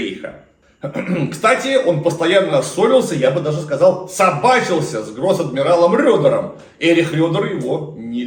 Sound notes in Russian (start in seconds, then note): 0.8 откашливается